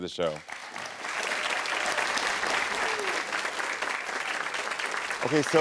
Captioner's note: audience applauding